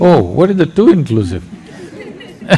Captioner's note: laughter